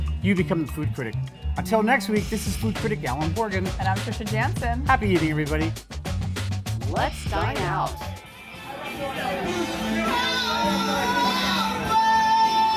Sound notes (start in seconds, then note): 6.5 voiceover